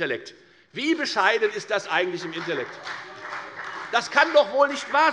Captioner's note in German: Beifall bei der FDP und bei Abgeordneten der SPD